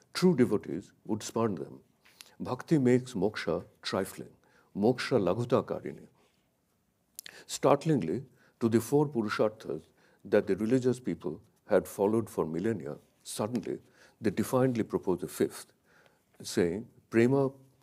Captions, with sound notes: true devotees would span them. Bhakti makes moksha trifling, moksha (speaks in a foreign language). Startlingly to the four purusharthas that the religious people had followed for millennia, suddenly they defined proposed a fifth saying (speaks in a foreign language).